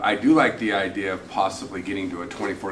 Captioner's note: none